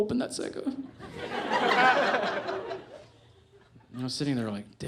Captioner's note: audience laughs